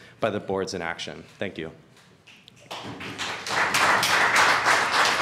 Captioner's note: applause